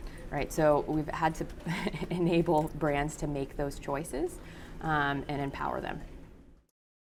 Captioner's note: laugh